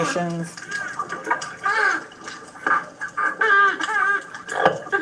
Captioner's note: dolphins squeaking